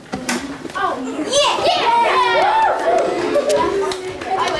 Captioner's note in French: cris de joie